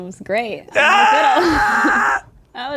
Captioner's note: screams